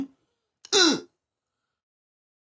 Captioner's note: mock idiot grunt